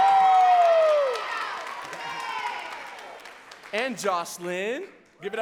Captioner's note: audience cheering and clapping